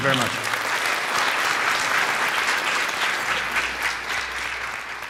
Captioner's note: applause